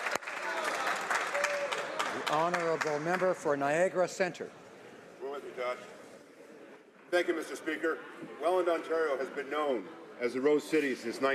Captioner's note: applause